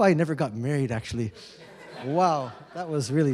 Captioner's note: laughter